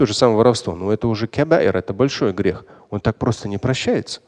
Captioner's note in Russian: говорит на арабском